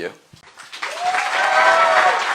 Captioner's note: applause